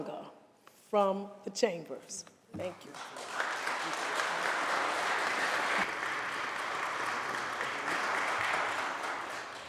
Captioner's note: applause